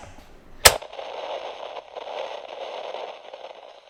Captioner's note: static